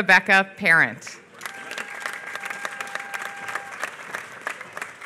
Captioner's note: applause